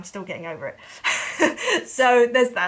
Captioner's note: laughs